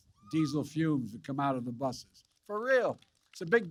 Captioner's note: applause